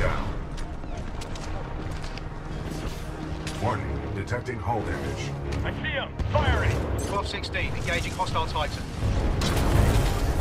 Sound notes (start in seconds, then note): 6.3 radio